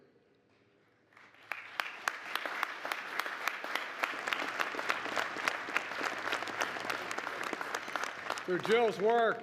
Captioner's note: applause